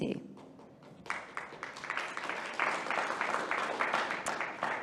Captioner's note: audience applauding